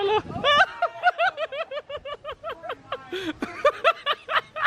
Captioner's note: laughs